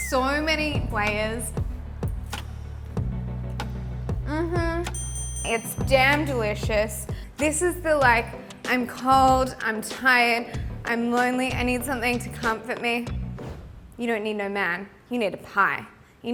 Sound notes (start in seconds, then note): 6.4 loud dinging